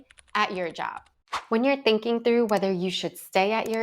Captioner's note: audio whooshes